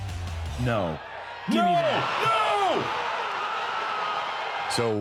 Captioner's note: crowd cheering